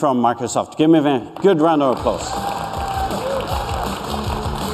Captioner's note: applause